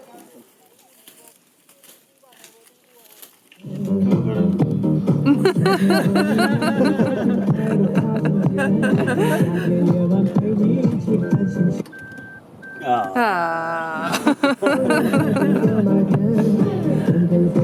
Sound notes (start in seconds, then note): 5.2 laughter; 14.0 laughter